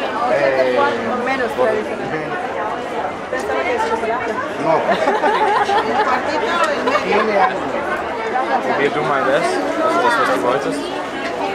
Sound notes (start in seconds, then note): 3.3 in Spanish; 4.8 laughter